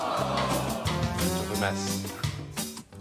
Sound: audience gasps

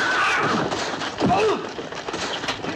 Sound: grunting; gunfire

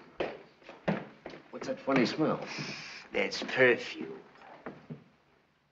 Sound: sniffs

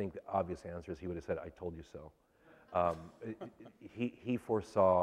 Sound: laughter

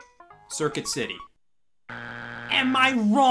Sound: buzzer beeps

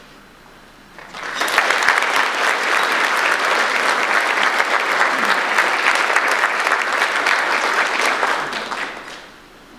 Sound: audience applause

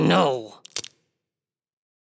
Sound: crunch

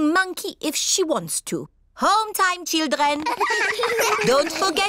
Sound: all giggle

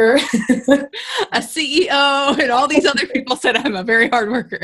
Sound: laughs

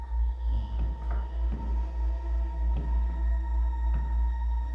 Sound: footsteps approaching

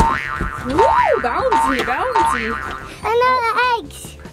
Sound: springs bouncing

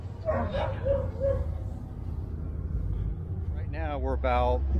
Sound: dog barks; dogs barking

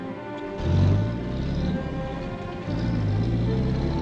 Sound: car rumbling

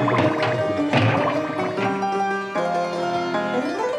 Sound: clattering

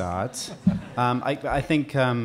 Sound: audience laughing

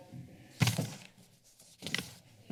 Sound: soft thud; rustling sound

